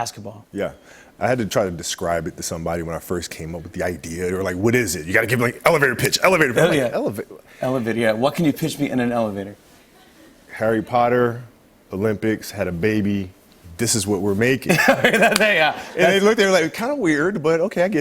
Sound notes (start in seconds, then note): 14.6 laughter